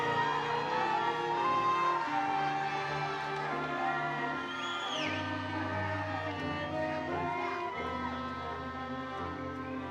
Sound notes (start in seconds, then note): 0.0 attendees cheering; 0.0 triumphant music